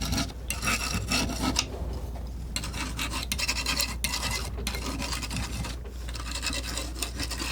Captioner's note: scratching